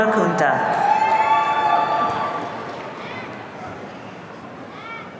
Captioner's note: audience cheering